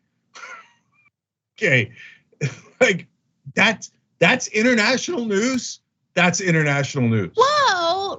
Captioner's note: laugh